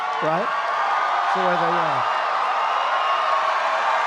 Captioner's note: applause